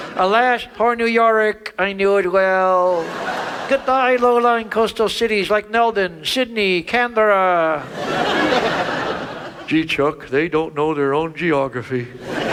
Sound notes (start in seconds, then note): 2.8 audience laughs; 7.8 audience laughs